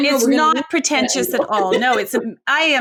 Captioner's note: laughs